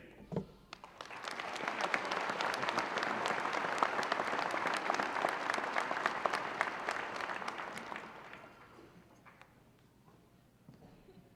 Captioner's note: applause